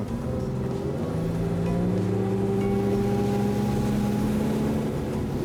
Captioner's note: boat engine revving